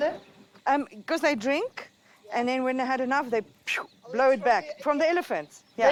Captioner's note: imitates snorting